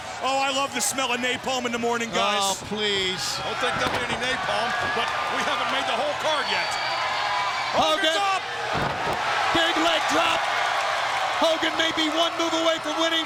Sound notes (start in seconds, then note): 8.6 body thudding